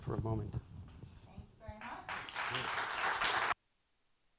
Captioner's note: applause